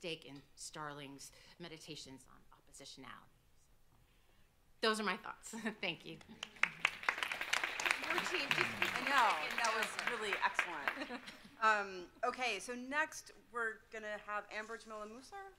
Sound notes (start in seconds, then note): 6.2 audience clapping; 11.0 chuckles